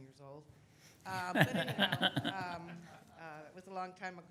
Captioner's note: audience laughs